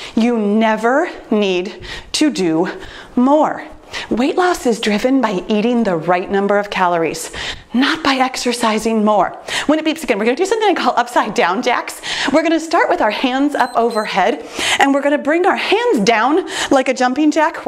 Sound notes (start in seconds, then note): 13.5 timer beeps